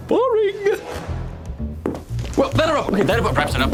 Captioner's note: footsteps